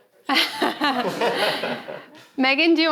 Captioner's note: panelist chuckles